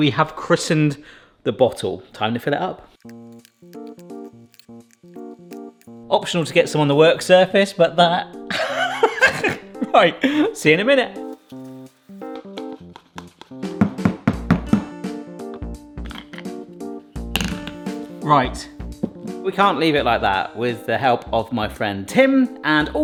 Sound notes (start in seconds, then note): 3.0 whimsical music; 8.5 laughs; 11.6 whimsical music; 12.8 funnel tapping; 13.9 bottle banging